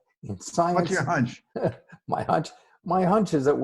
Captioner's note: laughs